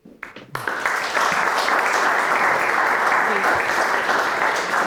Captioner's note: applause